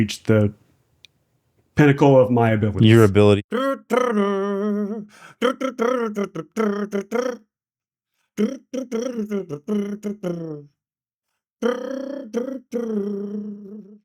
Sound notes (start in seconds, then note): 8.4 humming